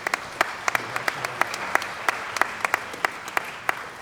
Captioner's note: applause